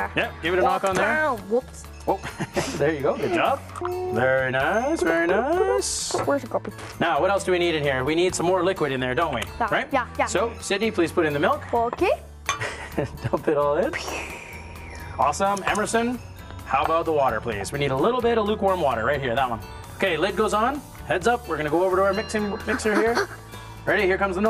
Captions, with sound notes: Sidney. >> Put it in? >> Yep. Give it a knock on there. >> Woops! >> Woops! There you go, good job. Very nice, very nice. Now what else do we need in here. We need some more liquid in there, don't we? >> Yeah, yeah. >> So Sidney, please put in the milk. >> Okay. (Laughter) >> Dump it all in! Awesome. Emerson, how about the water please? We need a little bit of lukewarm water, right here. That one. Okay, lid goes on. Heads up, we're going to go over to our mixing, mixer here.